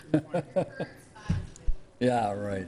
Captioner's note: faintly speaking